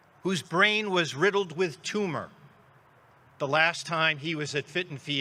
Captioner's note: none